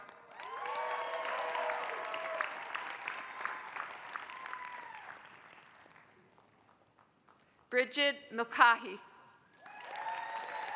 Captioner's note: applause; applause